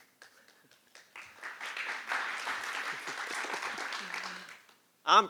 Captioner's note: applause